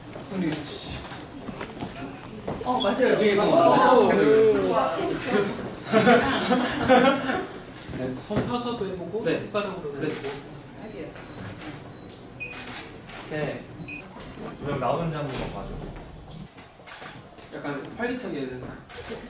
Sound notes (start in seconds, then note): 5.8 haha